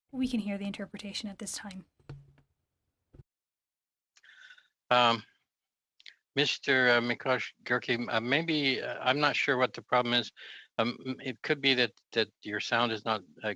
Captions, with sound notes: >> JUST REITERATING THAT THE -- [SPEAKING FRENCH] >> WE CAN HEAR THE INTERPRETATION AT THIS TIME. >> SIR, MAYBE -- I'M NOT SURE